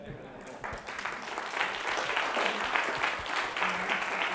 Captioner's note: applause